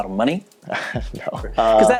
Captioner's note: chuckling